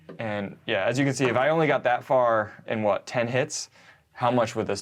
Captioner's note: none